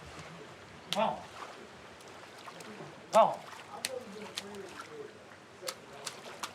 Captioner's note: splashing